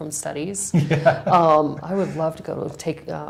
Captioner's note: laughs